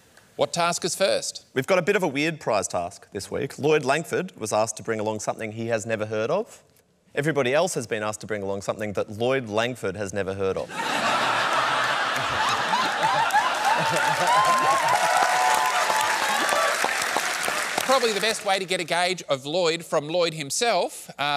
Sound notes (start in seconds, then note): 10.6 laughter; 14.7 applause